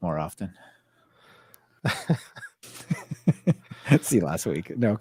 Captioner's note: laughing